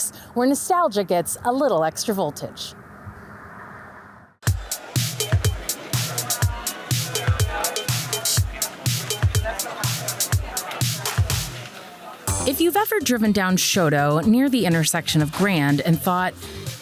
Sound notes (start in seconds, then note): 4.4 patrons chattering; 4.4 bright upbeat music